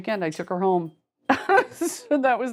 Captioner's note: laughs